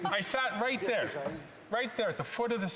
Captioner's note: laughter